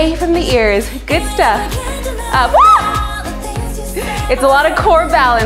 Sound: screams

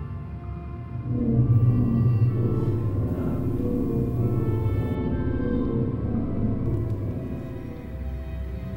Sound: magical sound

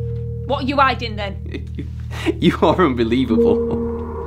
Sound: laughs

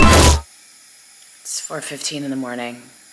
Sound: exciting instrumental music; air hissing

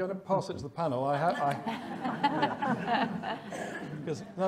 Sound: audience laughing

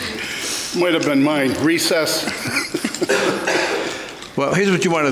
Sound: softly chuckling

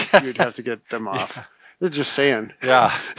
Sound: laughs

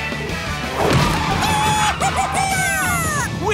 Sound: cheering

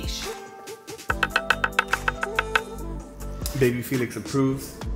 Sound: knife dicing

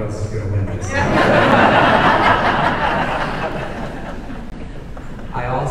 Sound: audience laughing

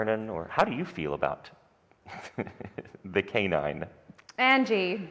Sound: chuckles

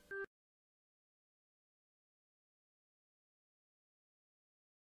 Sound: silence

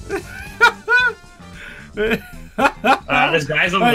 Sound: laughing

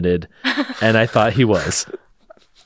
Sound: laughs

